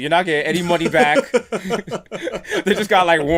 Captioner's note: laughter